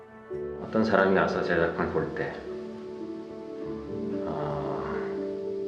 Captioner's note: speaking in Korean